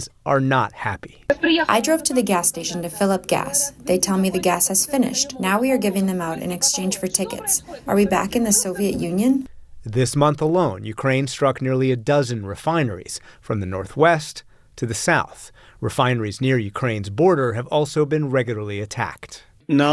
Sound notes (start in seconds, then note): 1.9 through translator